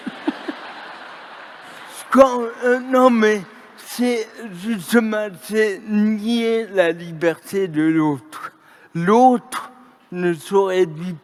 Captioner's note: laughter